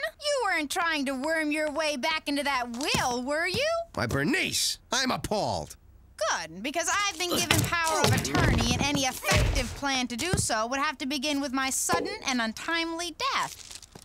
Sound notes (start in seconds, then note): 7.2 grunting